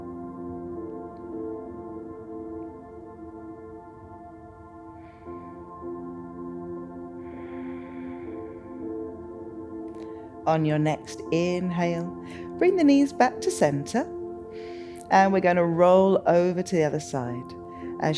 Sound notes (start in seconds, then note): 0.3 serene music continues; 5.2 inhales; 7.2 exhales